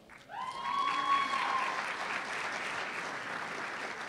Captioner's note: cheers and applause